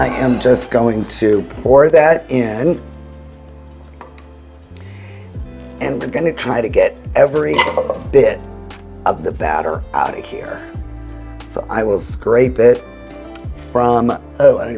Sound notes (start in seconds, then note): 0.0 pan clinking; 0.3 pan swishing; 7.7 container shuffling